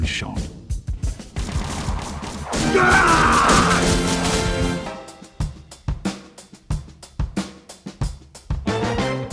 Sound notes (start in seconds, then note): 0.8 BLU Sniper cries out in pain; 1.4 arrows firing